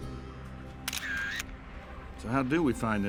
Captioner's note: upbeat country music playing; camera shutter